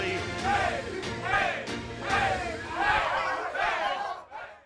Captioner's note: cheering